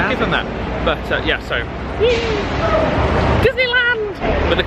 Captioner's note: squeals excitedly